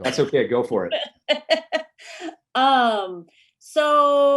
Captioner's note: laughs